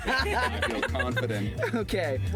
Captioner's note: laughing